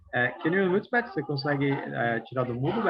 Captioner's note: non-english speech